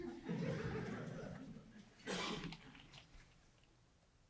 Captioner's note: audience chuckles